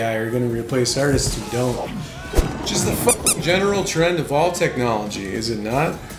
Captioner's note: squeak squeak